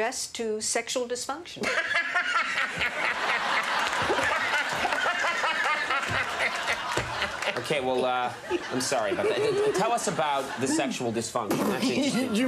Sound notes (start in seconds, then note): 1.8 laughter